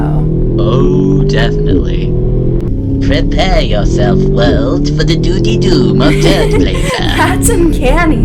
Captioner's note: does mocking impression of an evil Brian